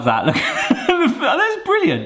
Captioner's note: laughing